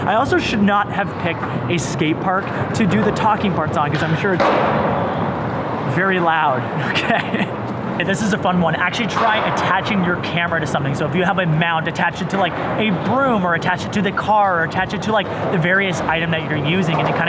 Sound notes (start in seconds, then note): 4.3 skateboard banging; 6.8 laughs